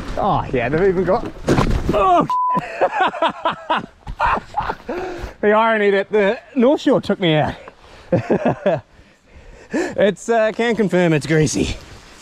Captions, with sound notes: Ah, yeah. They've even got. Oh (beep) ha ha ha. Oh the irony that the took me out. It's can confirm it's greasy.